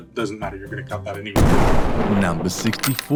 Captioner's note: explosion sound